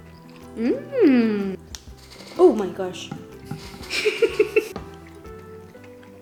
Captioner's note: laughing